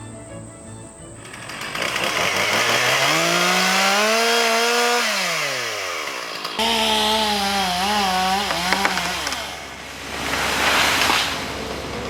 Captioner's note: chainsaw